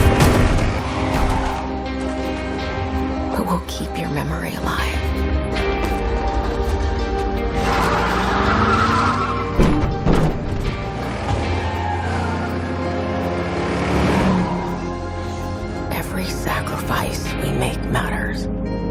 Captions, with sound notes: But we'll keep your memory alivive. [dark sentimental music playing] [thumping] Every sacrifice we make matters.